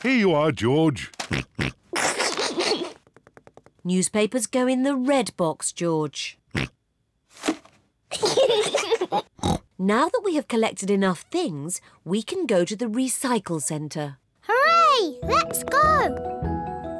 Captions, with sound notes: Here you are, George. (SNORTS, SNICKERS) Newspapers go in the red box, George. (SNORTS) (KIDS GIGGLE) Now that we have collected enough things, we can go to the recycle center. Hooray! Let's go.